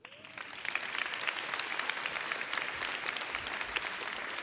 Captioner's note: audience clapping